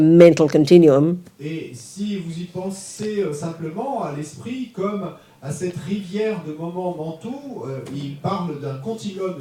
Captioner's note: audience member speaks in French